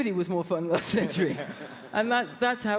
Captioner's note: audience laughs